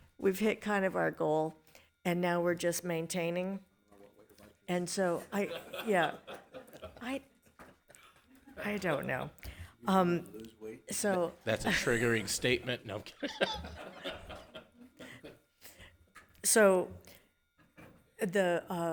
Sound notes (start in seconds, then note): 13.0 laughs; 13.2 everyone laughing